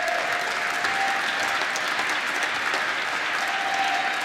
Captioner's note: applause